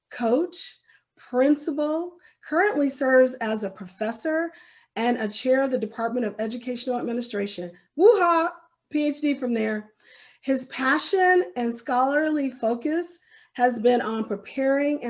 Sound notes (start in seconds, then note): 8.2 exclaims